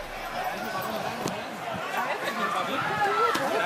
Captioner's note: crowd noise